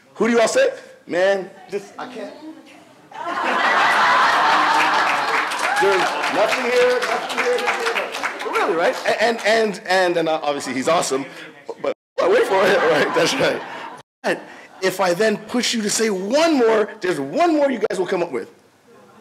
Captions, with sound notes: who do you all say? Man, I can't. (audience laughs) (audience applauds) Nothing here, nothing here, nothing here. Really, right? And, obviously, he's awesome. But, I went for it, that's right. But, if I then push you to say one more, there's one more you guys will come up with.